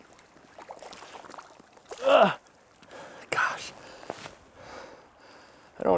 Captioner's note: splash